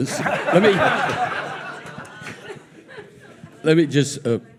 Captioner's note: audience laughing